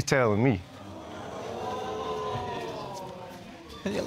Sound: audience exclaiming

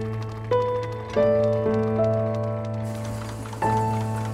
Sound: machinery clicking

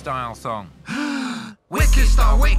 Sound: Grandma inhales

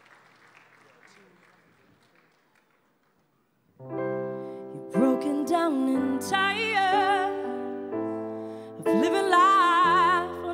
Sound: applause

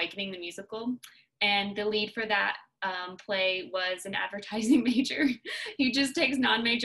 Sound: laughter

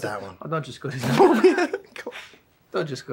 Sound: laughs

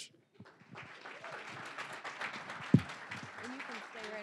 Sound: applause

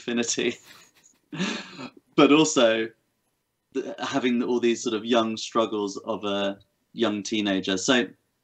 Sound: laughs

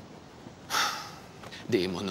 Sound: Themistocles sighs; Themistocles speaking in foreign language

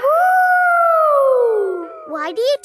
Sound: howling

